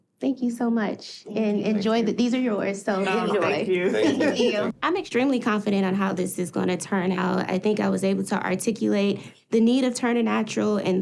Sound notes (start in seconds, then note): 3.0 chuckling